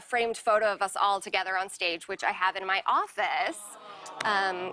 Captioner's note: audience "Awws"